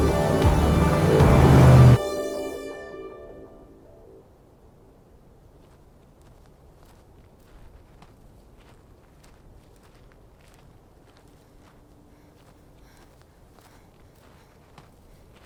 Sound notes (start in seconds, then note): 5.3 footsteps pattering; 12.0 Ellie breathes heavily